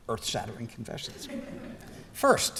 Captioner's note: laughter